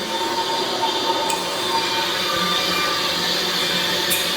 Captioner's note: pipes hum